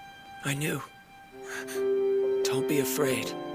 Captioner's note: gasps